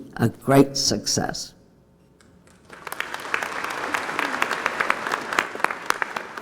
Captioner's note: applause